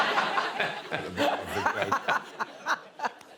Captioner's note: laughter